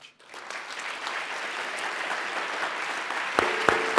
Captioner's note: applause